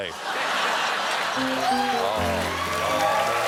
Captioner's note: laughter; applause